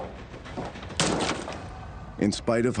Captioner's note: stomps